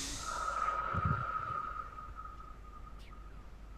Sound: sighs

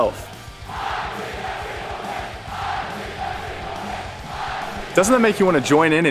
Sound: crowd cheering

